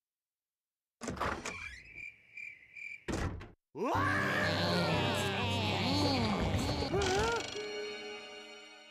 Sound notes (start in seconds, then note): 1.9 crickets chirping; 3.8 screaming; 6.8 gasping